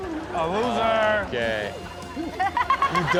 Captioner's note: Chanel and audience laughing